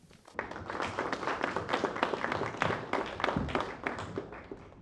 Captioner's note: applause